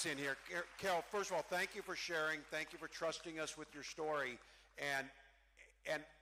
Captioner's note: cheering